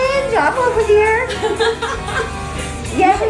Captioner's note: laughing